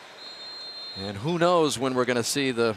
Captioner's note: whistle